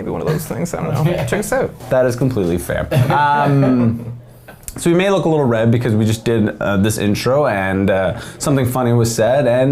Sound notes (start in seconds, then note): 2.9 men laughing